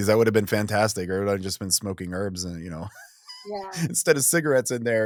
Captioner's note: laughs